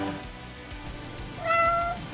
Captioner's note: meow!